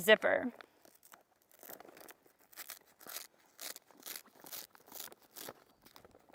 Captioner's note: zipper crinkling